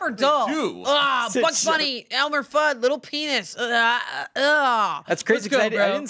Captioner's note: groans